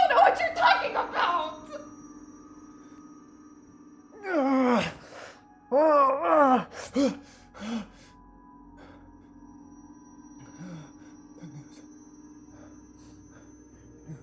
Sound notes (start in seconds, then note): 4.2 Kenny screams; 5.8 eerie music